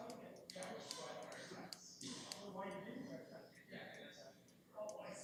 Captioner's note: background chatter